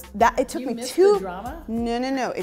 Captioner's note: laughs